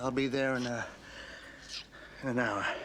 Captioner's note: kissing